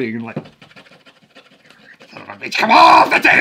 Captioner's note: scratching the table; yelling